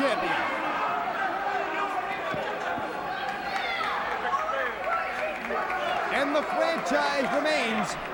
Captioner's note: crowd chatter